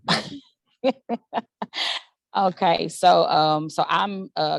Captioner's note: laughs